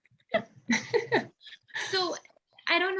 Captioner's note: both laugh